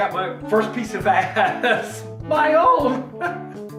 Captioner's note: CONTINUES LAUGhING; jim laughs